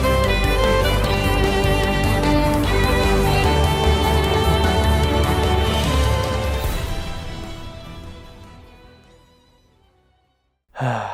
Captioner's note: Overly dramatic YouTuber sigh